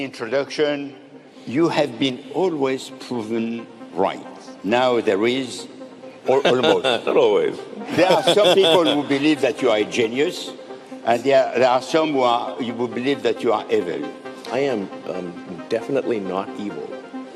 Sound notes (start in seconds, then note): 7.8 chuckles